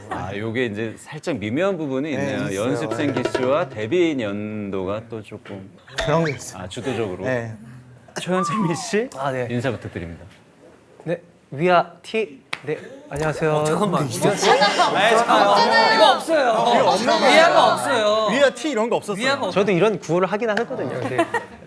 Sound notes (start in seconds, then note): 13.0 colleagues stirring at the sudden English greeting